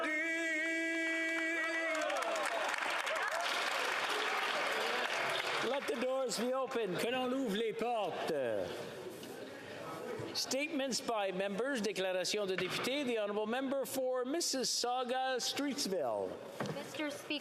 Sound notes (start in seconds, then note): 4.5 applause